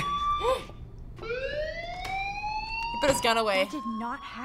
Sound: fire bell wailing

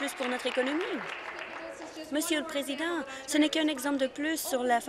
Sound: applause

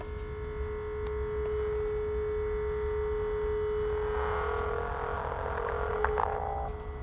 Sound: static sound and hiss coming from the phone

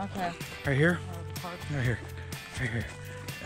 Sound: none

